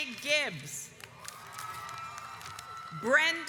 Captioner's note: audience applauds